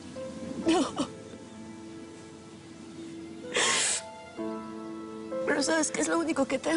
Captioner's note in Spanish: Sollozos